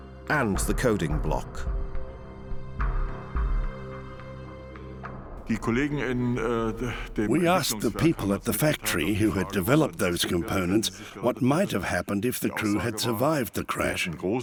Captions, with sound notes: and the coding block. [speaking German] We asked the people at the factory who had developed those components what might have happened if the crew had survived the crash.